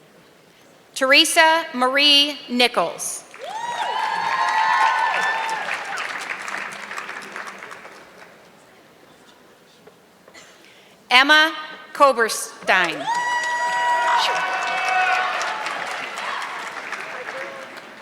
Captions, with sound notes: Theresa Marie Nichols. (audience clapping) Emma Coberstein. (audience clapping)